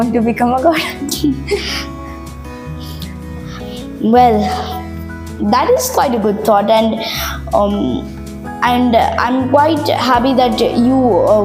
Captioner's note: laughs